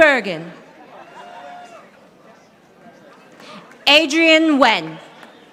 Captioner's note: audience applauding